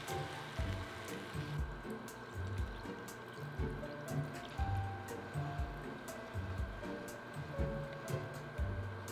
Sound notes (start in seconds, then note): 2.0 liquid pouring